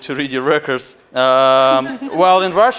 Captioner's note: laughing